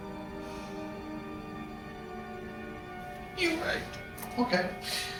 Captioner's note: sighing